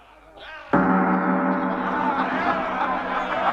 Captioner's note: gong rings; all cheering and laughing